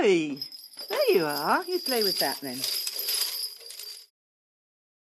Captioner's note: clychau'n canu